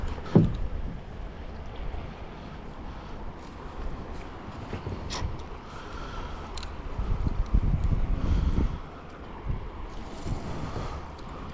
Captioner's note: wind blowing